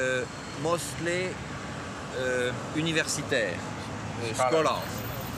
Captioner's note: speaking in foreign language